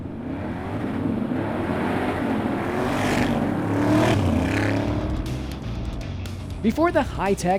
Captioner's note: engines revving